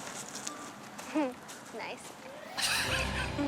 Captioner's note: chuckling